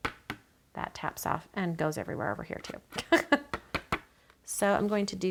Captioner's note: laughs